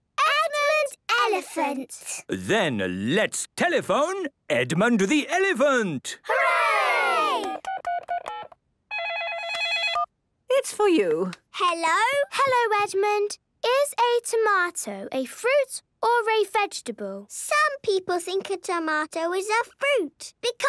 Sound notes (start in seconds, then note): 8.9 dial tones beeping; 9.0 ringing